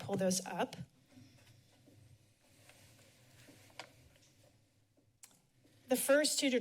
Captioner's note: silence